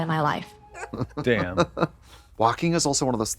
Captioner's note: Trixie hee-hees